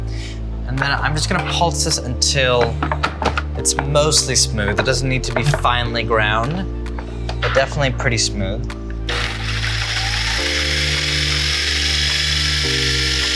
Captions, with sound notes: and then I'm just gonna pulse this until it's mostly smooth. It doesn't need to be finely ground but definitely pretty smooth. (blender whirring)